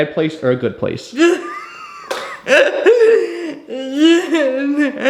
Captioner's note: laughing